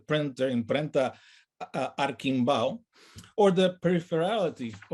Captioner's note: speaks in native language